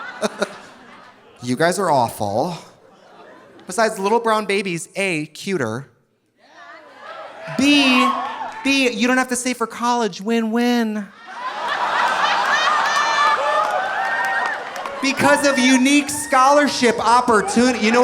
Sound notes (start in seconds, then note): 0.0 laughs; 6.8 audience cheering; 11.2 audience laughing